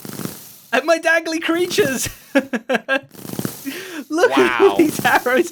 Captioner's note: chuckles